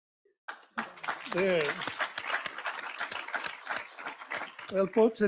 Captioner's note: audience applauds